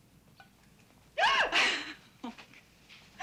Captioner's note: gasps, laughs